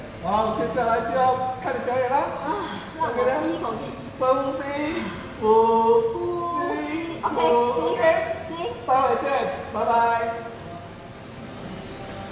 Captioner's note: deep breathing